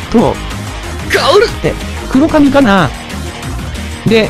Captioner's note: sleep-talking